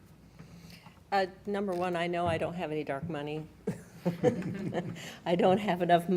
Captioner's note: laughs